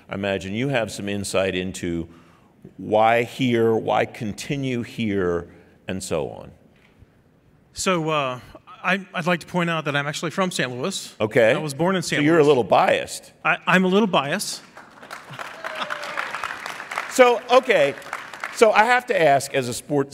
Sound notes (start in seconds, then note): 14.6 applauding